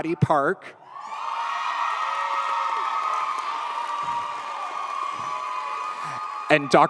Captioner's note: audience cheers; audience applauds